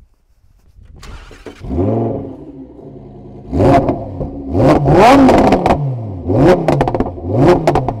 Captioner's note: engine sound